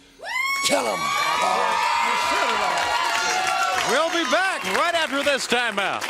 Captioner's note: crowd cheering